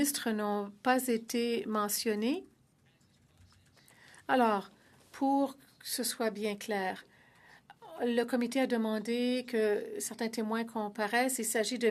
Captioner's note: speaking French